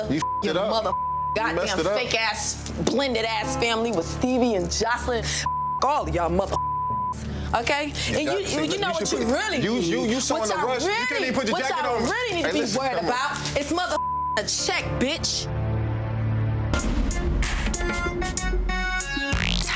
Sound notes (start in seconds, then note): 0.8 beep; 6.5 beep; 9.8 overlapping chattering; 13.9 beep; 15.4 slow hip hop music